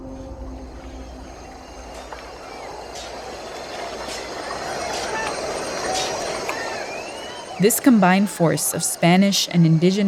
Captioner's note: soundbite of wilderness ambience